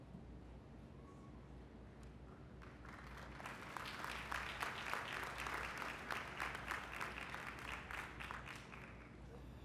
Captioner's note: applause